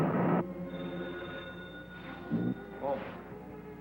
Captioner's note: phone ringing